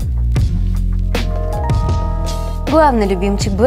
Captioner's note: pleasant music; bell sound